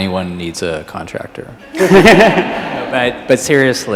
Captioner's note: all laugh